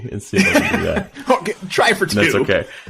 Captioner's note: laughing